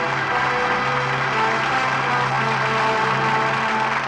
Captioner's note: audience applauding